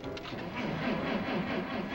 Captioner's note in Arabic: صوت المحرك يتلعثم